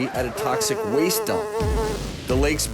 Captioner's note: flies buzzing